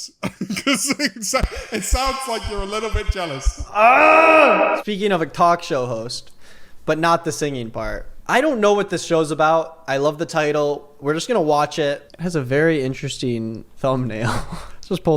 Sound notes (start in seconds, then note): 3.7 grunting